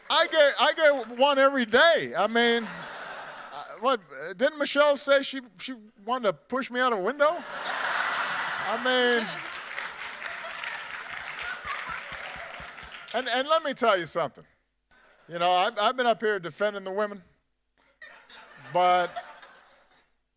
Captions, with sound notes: I get one every day. I mean, didn't Michelle said she wanted to push me out of window? (audience laughing) I mean. (audience applauding) And let me tell you something. You know, I've been up here defending the women, but,